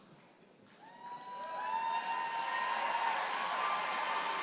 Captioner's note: applause